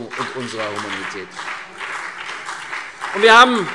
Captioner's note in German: Beifall CDU und BÜNDNIS 90/DIE GRÜNEN